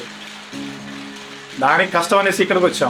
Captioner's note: the constant hum and clatter of the electric loom